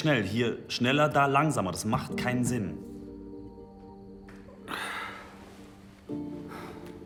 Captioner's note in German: seufzt